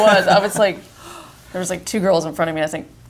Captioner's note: gasp